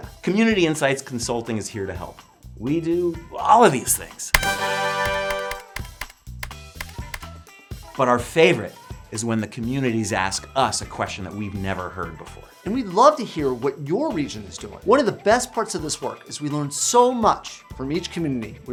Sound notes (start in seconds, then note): 4.4 fanfare; 5.9 typing